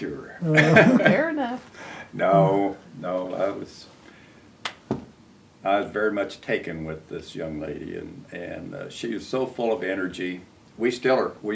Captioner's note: laughter